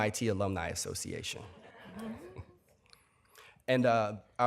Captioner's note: laughter